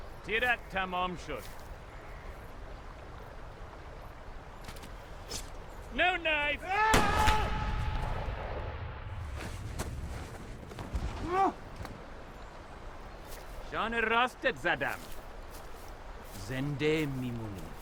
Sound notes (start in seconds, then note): 6.7 shouting